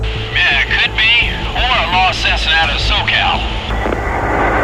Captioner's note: voiceover